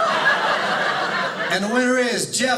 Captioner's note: audience laughing